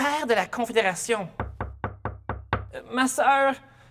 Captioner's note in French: On frappe à la porte, encore